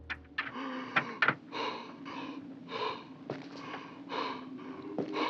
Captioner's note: man breathing heavily